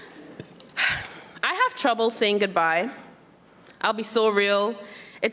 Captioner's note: sighs